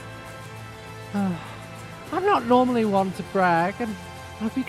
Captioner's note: sigh